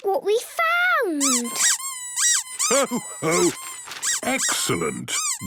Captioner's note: squeaking